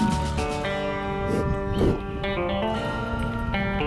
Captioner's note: bison breathing